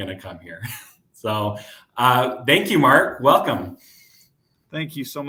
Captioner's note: laughter